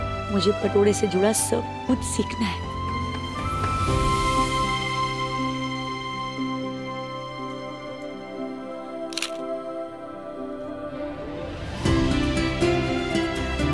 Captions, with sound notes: I want to learn everything related to Patola Sari. [exhilarating music] [photo clicking] [exhilarating music]